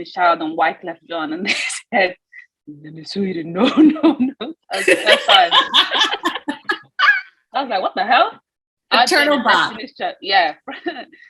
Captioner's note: laughs